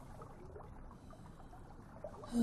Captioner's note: sighing